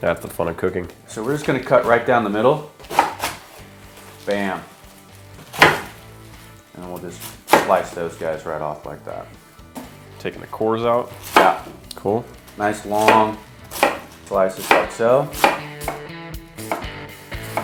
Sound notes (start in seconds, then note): 2.8 cabbage rustling; 5.3 knife banging